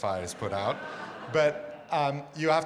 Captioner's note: audience laughs